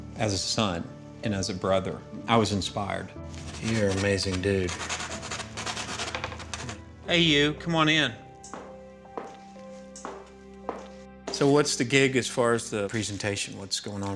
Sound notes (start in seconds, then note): 4.9 scratching on canvas; 8.2 footsteps